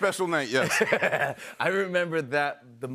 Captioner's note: laughs